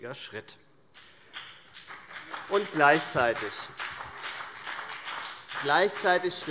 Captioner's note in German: Beifall BÜNDNIS 90/DIE GRÜNEN und vereinzelt CDU